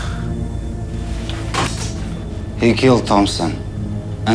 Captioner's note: exhaling